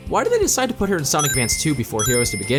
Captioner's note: ring sound effect